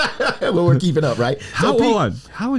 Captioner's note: laughs